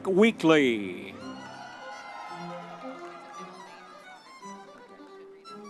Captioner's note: audience members cheering; classical orchestral music continues